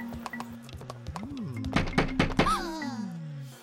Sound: stairs creaking; Babu sighing; grunting

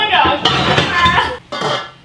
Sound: loud Banging

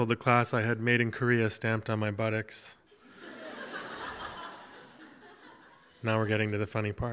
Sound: audience laughs

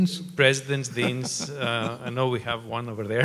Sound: laughing

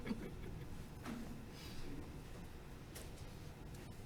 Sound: laughing

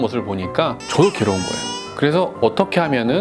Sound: tears

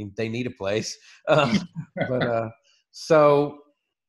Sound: laughs

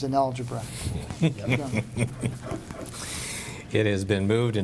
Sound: member chuckles

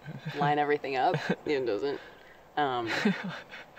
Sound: chuckling

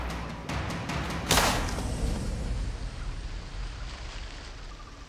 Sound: gun shot

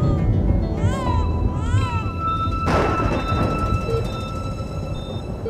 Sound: crying

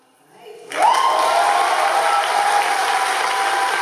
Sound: audience applauds

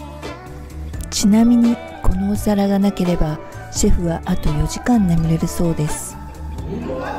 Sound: laugh

